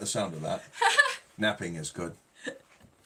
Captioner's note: laughing